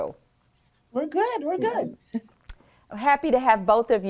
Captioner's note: laughs